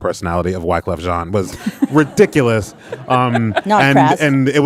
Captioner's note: audience laughing